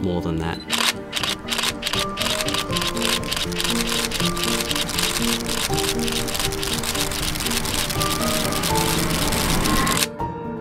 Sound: camera shutters

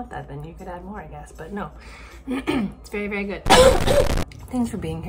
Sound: coughing; clears throat

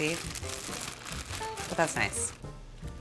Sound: crackling

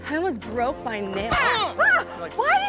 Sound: screams

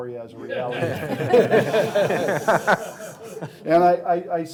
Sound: laughing

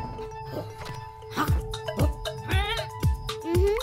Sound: excited bleating

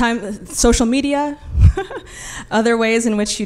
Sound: chuckles

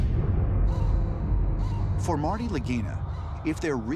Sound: crow calling

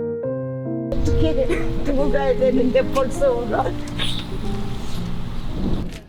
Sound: tears

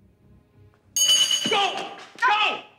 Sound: launcher clangs

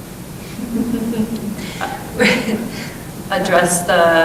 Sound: laughing

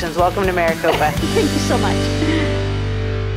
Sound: laughs

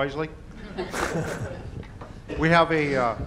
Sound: audience laughter

